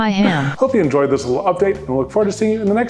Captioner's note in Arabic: صوت آلي